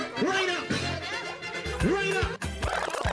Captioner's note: cheers and Applause